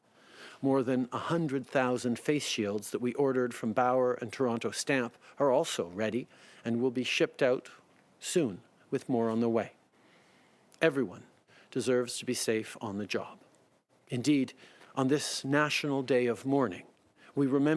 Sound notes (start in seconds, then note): 3.6 speaking French